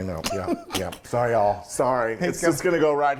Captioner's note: laugh